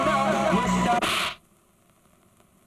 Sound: slap

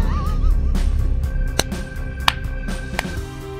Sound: in-video laughter

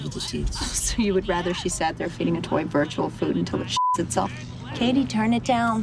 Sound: beeps

